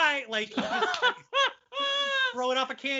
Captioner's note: laughing loudly